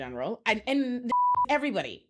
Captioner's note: beep